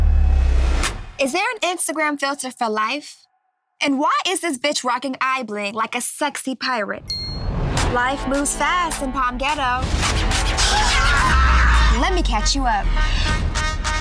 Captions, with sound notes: Is there an Instagram filter for life? And why is this bitch rocking eye bling like a sexy pirate? [CHIME] Life moves fast in Palm-ghetto. [SHOUTING] Let me catch you up.